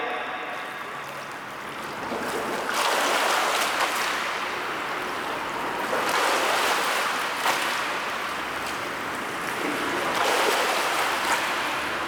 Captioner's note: water flow